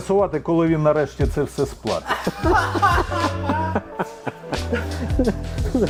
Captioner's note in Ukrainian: сміх